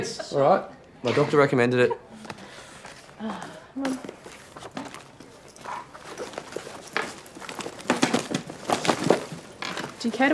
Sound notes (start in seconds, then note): 6.4 rustling